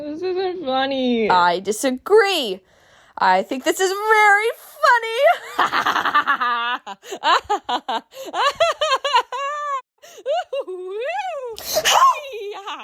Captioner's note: laughter